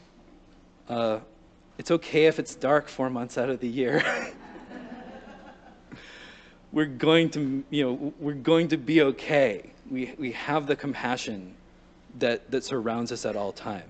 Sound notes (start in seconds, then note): 4.0 light Laughter